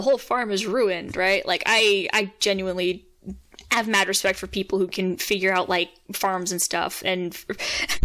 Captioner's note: dry huff of laugh